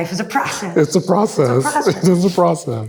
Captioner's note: chuckling